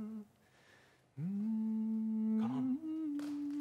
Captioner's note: hums